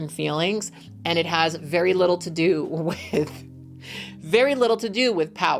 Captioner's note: laughing